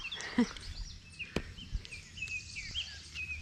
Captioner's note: laugh